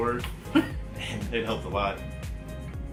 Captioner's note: laughs